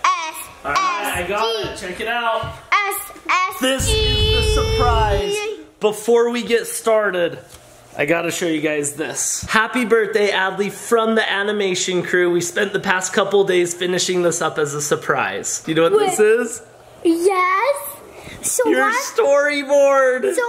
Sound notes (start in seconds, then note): 3.8 screen rumbling